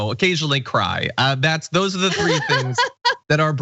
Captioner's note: laugh